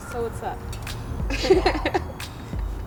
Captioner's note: laughs